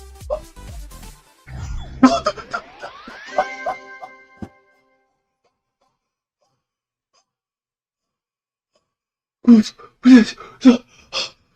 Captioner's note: sounds of true happiness